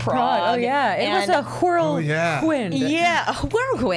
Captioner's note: over-enunciating